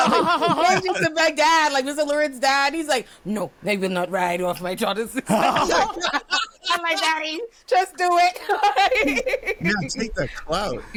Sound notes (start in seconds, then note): 5.2 laughs; 8.4 laughs